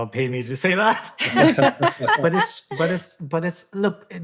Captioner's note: all laughing